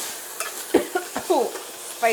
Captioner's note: coughing